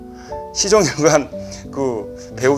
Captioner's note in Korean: 웃으며